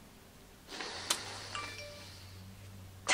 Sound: sniffs

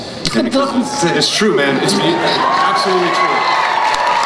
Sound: crowd cheers

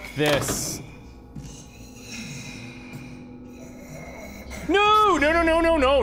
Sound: creepy breathing continues

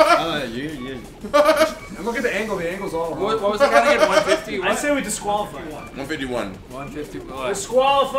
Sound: laugh

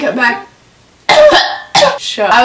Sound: coughs

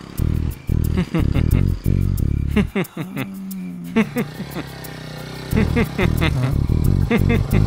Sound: Balu laughing

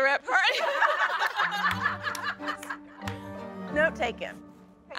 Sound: laughter

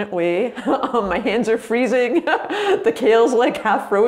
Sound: laughs

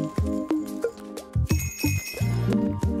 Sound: bells trill

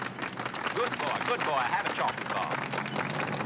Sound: applause

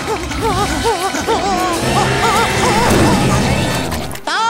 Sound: whimpering

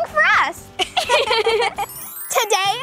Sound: girls giggle

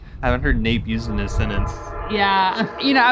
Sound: train horn blowing

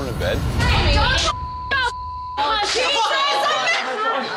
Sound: beep

